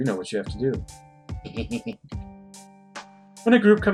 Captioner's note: giggles naughtily